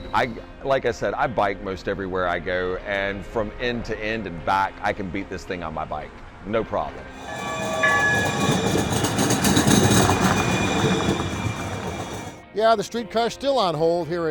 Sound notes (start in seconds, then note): 7.1 streetcar engine roars